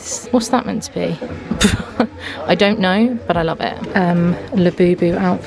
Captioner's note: chuckles